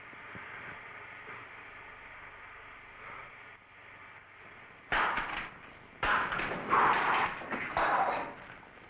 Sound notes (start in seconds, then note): 6.0 Phantom slapping